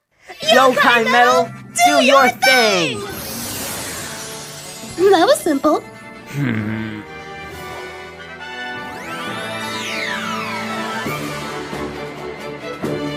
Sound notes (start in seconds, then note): 0.0 Zazel laughs creepily; 6.2 Nate sighs